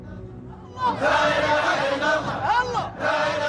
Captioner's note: all chanting